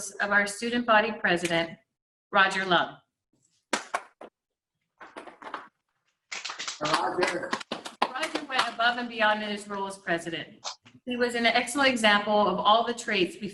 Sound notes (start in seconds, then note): 4.0 laughing